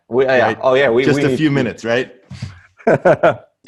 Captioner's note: laughs